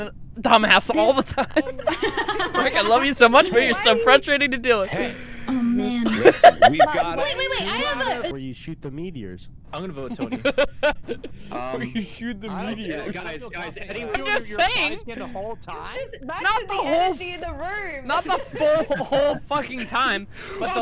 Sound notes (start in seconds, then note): 0.9 laughing; 6.0 laughter; 9.9 laughter